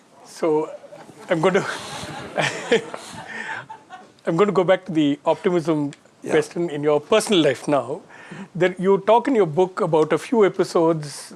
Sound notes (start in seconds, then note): 1.0 all laughing